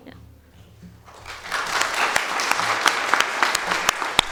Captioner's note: audience applauding